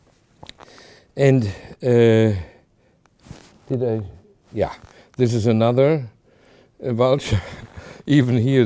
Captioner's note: chuckling